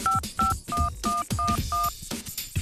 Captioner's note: high- and low-pitched beeping